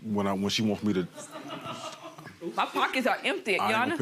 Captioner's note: laughing